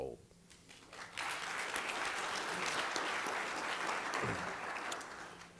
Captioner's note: applause